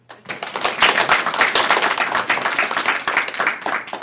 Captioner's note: applause